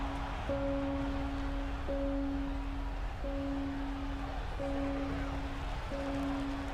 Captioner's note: applause